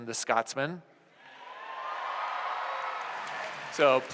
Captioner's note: cheers